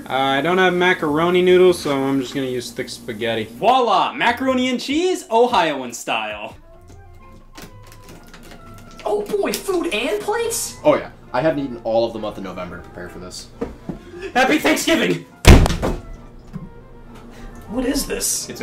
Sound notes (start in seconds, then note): 15.4 chicken thuds on wall